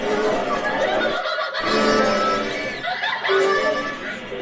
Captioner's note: people laughing